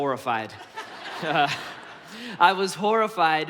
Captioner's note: congregation laughs